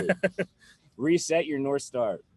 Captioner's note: laughs